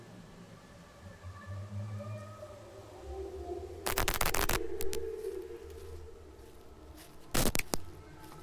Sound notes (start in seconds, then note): 0.0 spectral voices wail; 3.8 glitch sound